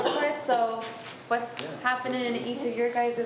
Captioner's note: coughs